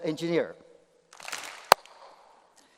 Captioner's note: applause